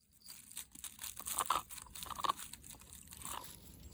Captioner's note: sound of eating something